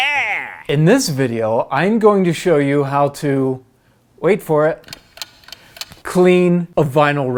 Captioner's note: clock ticking